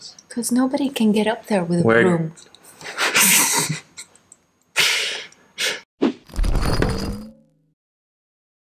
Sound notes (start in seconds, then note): 2.8 laughs